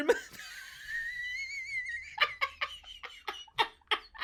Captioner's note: laughs